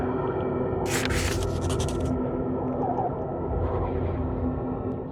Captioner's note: drawings rustling